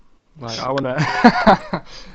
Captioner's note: laughs